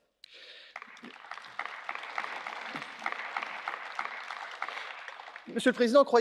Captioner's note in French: Applaudissements